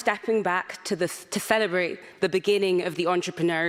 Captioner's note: none